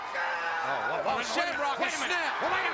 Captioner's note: Shamrock screams